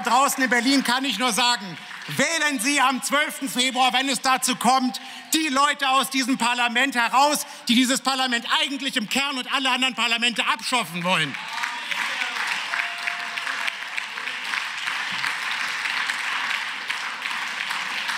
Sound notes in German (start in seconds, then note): 11.9 Beifall